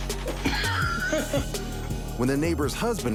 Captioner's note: homeowner laughs